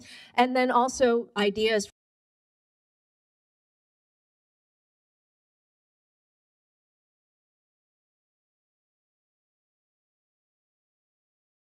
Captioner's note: audio cuts out